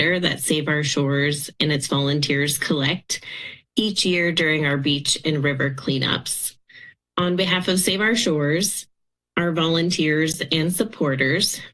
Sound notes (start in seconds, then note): none